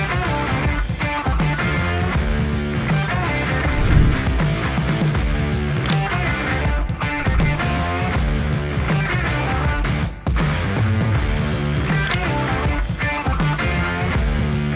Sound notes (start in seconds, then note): 7.1 camera clicks